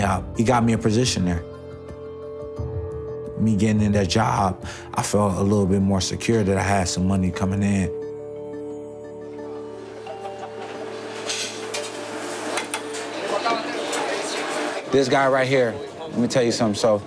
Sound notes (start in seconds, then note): 9.1 indistinct chatter